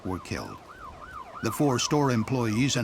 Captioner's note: sound of sirens